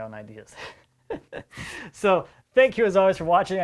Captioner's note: laughs